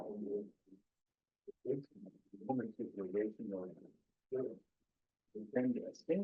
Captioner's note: presenter speaking faintly off mic